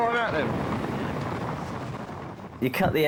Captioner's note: wind swooshing